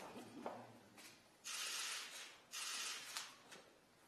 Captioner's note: camera shutters clicking